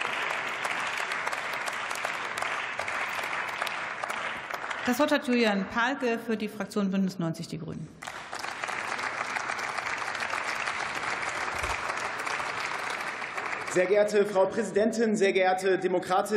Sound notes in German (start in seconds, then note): 8.0 Beifall